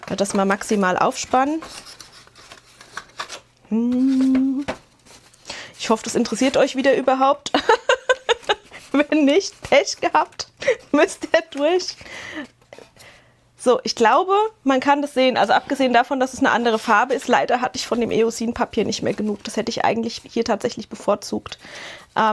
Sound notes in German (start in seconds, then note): 7.5 Gelächter